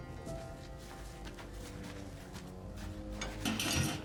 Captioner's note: footsteps; clanking sound